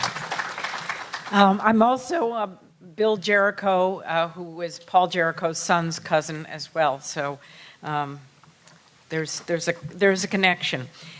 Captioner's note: applause